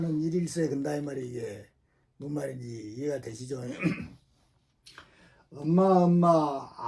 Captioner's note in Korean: 목을 가다듬음